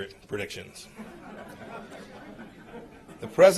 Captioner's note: laughter